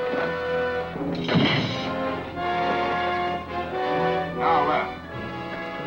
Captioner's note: grate slams